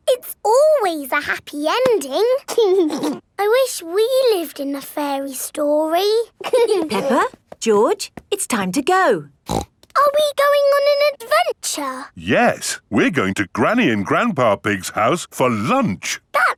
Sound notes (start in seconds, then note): 2.5 giggling; 6.4 both giggling; 9.4 snorts